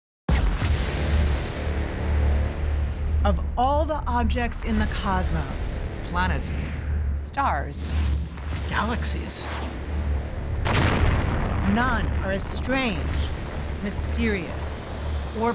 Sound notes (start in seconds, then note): 10.1 explosion echoes